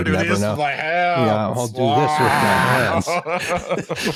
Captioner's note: laughs; laughter